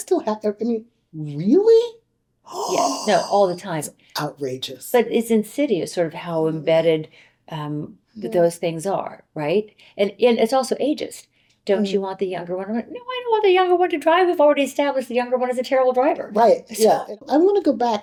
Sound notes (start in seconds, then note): 2.0 gasp